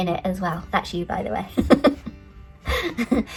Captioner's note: laughs